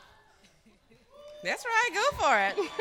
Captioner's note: cheering